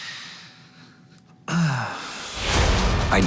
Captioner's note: sighs